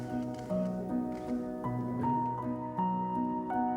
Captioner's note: camera shutters clicking; gentle music